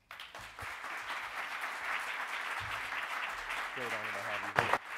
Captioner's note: audience applauding